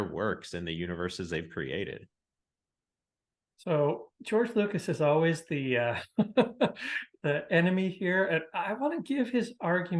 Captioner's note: laughs